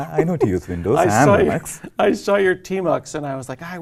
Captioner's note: laugh